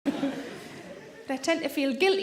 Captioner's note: audience laughs